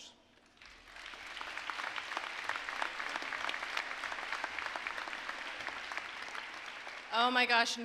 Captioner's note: applause